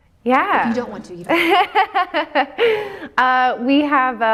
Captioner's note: laughs